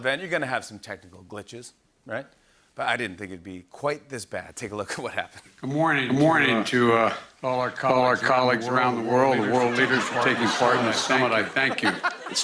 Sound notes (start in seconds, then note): 5.7 echoing